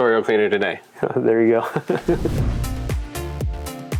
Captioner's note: chuckles; upbeat music